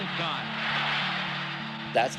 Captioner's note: cheering